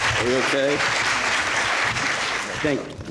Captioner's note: applause